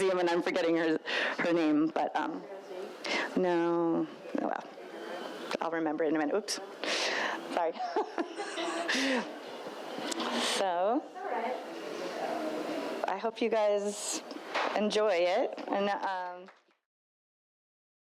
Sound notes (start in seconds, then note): 2.9 woman speaks faintly; 7.7 laughs